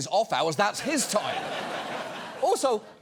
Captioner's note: audience laughs